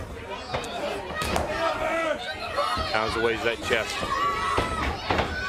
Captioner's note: crowd chatter